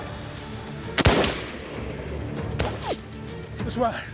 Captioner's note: gunshot